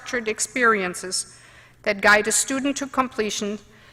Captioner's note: none